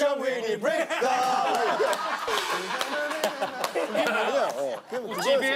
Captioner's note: laughing